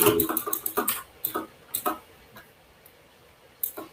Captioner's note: keyboard clacks